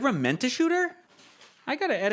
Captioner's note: paper rustling